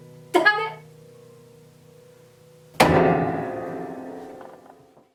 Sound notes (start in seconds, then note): 1.8 keyboard mashing